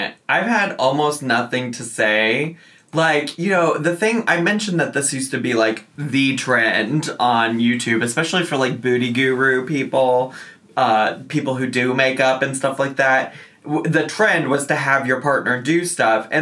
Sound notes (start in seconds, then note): none